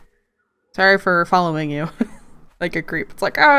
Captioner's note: laughs